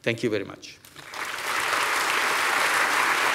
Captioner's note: applause